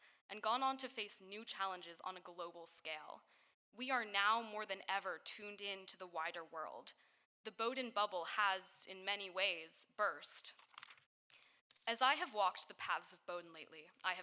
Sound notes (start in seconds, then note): none